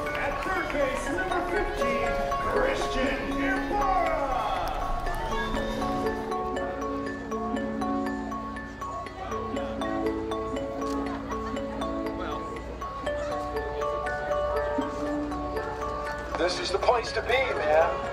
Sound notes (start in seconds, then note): 5.2 crowd cheering; 9.0 indistinct chatter